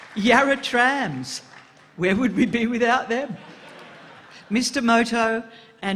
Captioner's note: applause